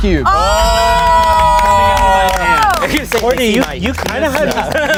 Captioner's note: everyone cheers